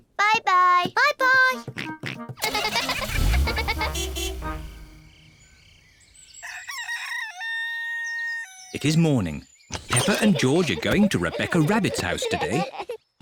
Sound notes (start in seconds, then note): 1.9 horn toots; 2.4 giggling; 6.3 rooster crows